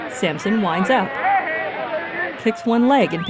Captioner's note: crowd cheering and whistling